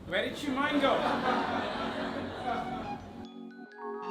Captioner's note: crowd laughs; upbeat music plays